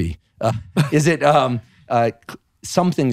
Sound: laughing

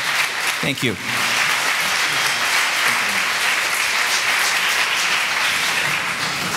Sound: audience clapping

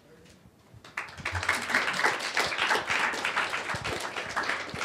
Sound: applause

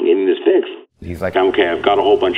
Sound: voiceover

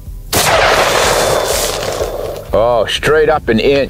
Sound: gun shot

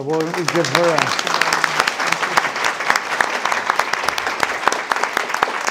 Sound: audience applauding

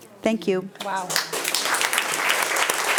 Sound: audience applauding

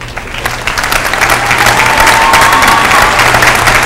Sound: applause

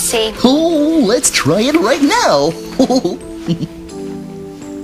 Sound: chuckles

